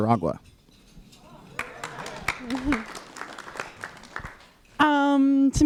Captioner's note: applause